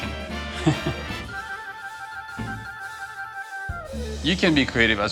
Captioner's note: laughs